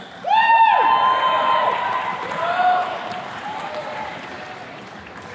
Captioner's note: attendees cheers and claps